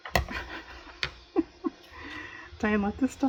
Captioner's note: laughs